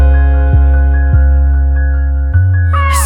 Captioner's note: nervous